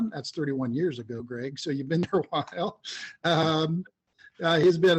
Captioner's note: laughs